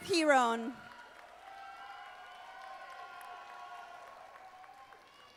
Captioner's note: audience applauding